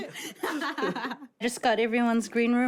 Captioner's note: laughs